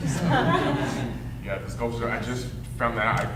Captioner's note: audience laughing